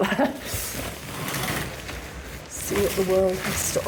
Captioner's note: curtains ruffling